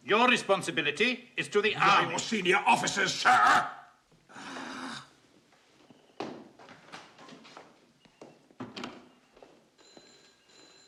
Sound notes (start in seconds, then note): 4.4 grunts; 9.8 phone ringing